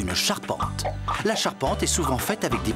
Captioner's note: popping Sound